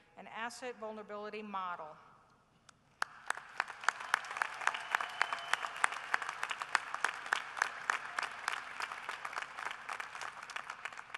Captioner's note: applause